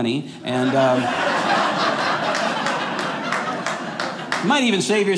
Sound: audience laughing

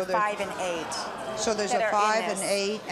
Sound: audience exclaim in shock

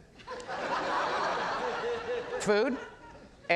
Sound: audience laughs

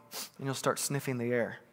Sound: sniffs

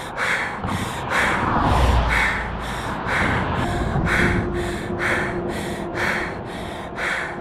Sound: gasps

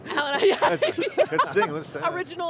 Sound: laughs

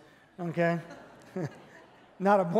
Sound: congregation laughing

